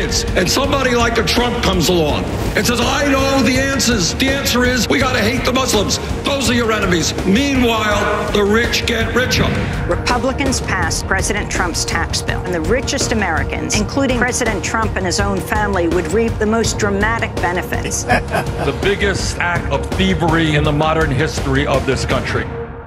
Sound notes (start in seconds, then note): 17.7 Trump laugh